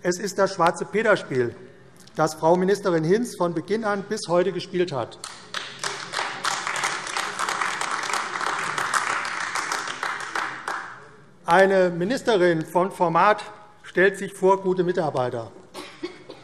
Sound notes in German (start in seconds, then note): 5.2 Beifall AfD